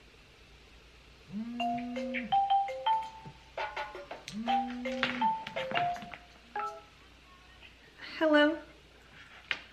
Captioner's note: phone call